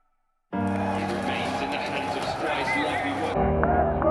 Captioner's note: cheering